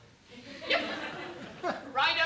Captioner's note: laughter